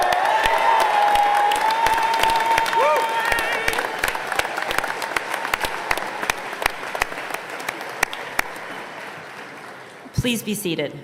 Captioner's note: cheers and applause